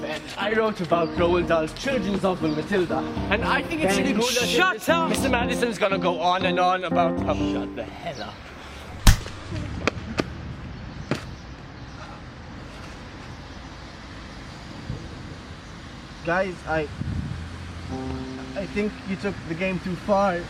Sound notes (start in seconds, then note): 9.0 punch; 11.0 thud